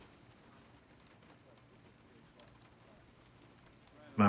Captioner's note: thunder rumbles